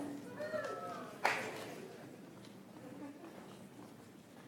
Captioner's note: audience applauds